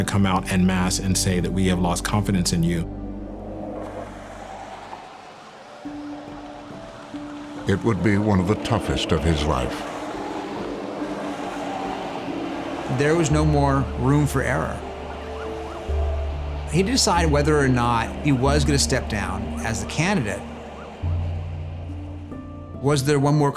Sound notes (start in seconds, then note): 3.6 sirens blaring